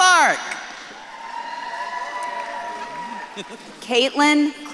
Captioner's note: audience claps and cheers